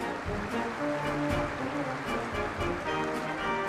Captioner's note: applause